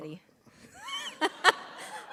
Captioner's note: laughter